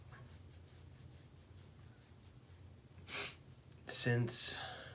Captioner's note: nails scratch